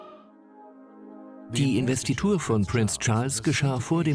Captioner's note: voiceover